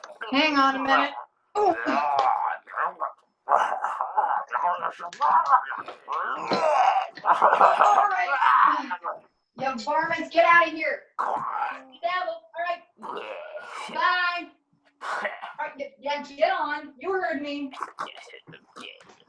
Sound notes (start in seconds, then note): 0.0 zombies growling; 1.6 zombie growling continues; 13.0 zombie growling continues